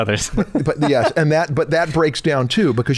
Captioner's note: chuckle